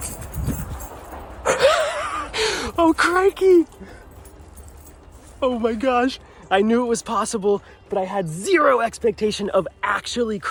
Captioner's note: laughing